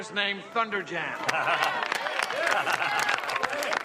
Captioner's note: laughs